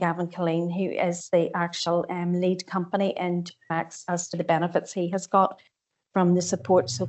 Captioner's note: audio distorts 36.10